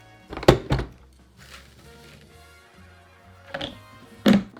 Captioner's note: oats dropping